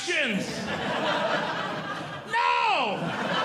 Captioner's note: audience Laughing